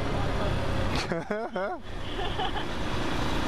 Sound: laugh

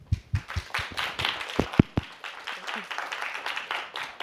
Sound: applause

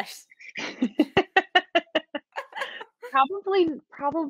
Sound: Deborah laughing

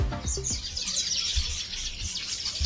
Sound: loud birdsong

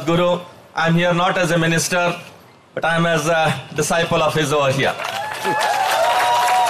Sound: applause

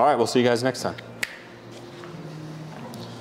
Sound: finger snaps

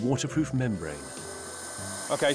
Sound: blow torch whistling

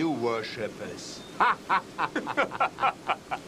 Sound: laughs

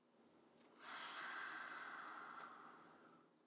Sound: sighs

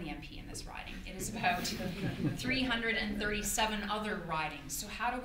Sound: audience laughter

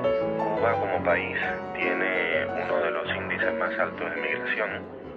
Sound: speaking Spanish

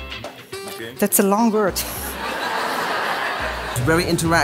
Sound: audience laughing

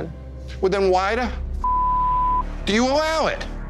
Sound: beeping

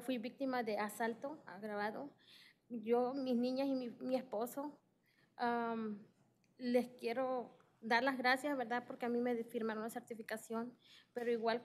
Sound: speaking spanish

